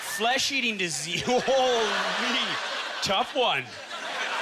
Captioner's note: audience laughter